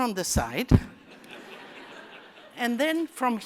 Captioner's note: laughter